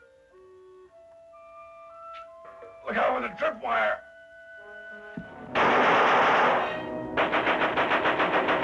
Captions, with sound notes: - Look out for the trip wire. (guns firing)